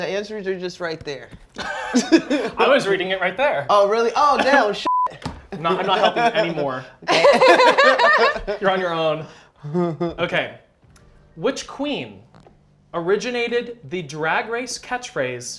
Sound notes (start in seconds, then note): 4.8 beep; 7.0 laughter